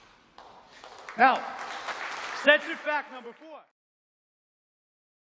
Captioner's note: applause